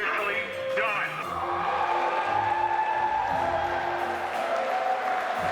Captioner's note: cheering, whooping; clapping